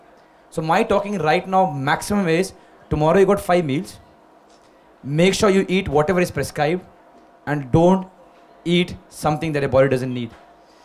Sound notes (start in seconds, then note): none